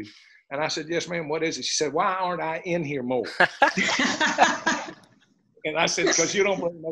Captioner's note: laughter